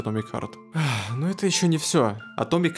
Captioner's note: sigh